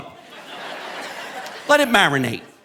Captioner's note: audience laughing